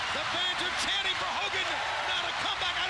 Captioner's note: crowd cheering